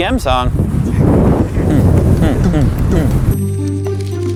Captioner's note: beatboxing